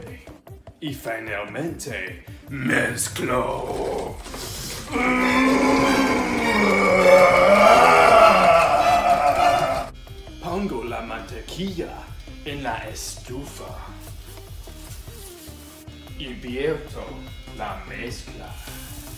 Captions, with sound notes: And finally, I mix! (Strained grunting) I put the butter on the stove. And I add the mix.